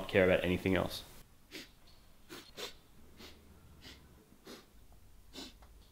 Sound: sniffing

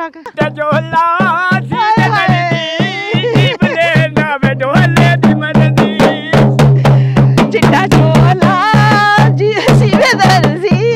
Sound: laughing

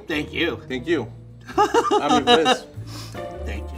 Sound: laughs

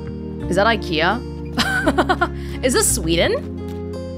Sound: chuckles

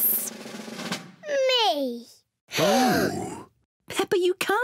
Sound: drum roll; all gasp

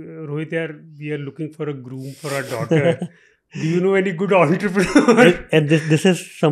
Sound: laughs

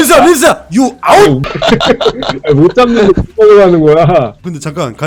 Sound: laughter

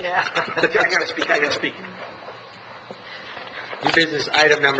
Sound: laughing

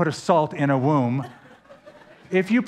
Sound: laughter

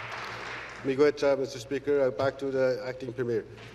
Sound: applause

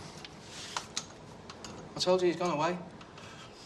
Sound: normal voice

